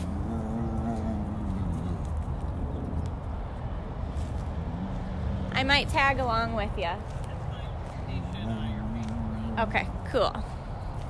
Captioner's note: mooing